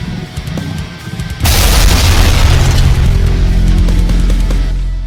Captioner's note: ground crashes